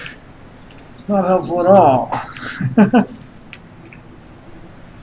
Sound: chuckles

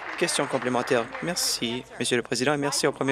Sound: applause

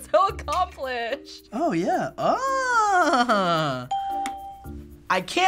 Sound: laughs; ding

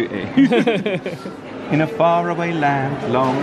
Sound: pair laughs

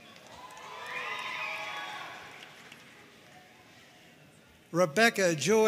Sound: audience cheering and applauding

